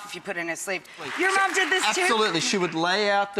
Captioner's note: applause